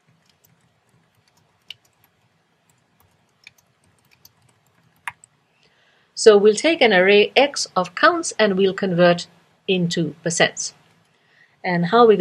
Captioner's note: pause